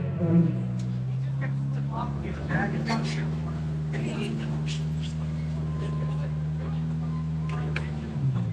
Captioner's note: crowd chattering